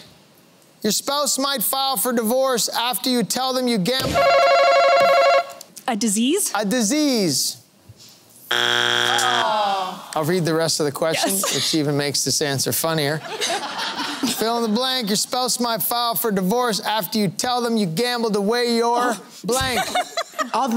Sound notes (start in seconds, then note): 4.1 buzzer ringing; 10.0 groaning; 19.5 laughter